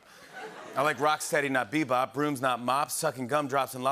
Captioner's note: laughter